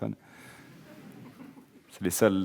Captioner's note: audience laughing